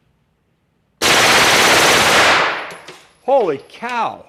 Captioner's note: gunshots